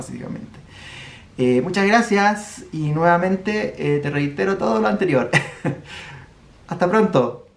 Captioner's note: laughs